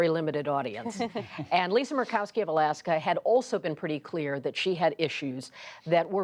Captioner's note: laughter